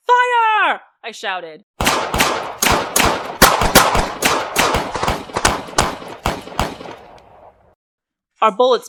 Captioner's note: gunfire and bullets bouncing off metal